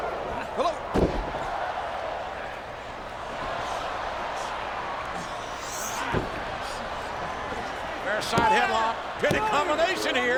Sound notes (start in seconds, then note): 1.8 crowd clamoring; 6.0 canvas thumping